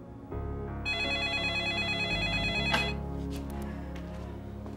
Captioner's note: telephone ringing